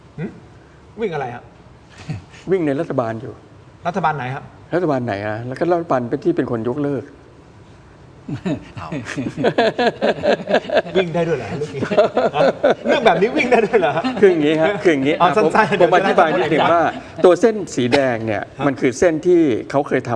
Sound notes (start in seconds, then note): 8.1 laughs